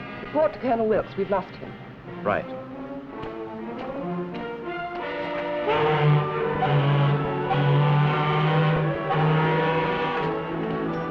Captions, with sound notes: Report to Colonel Wilkes, we've lost him. Right. [SHIP HORN]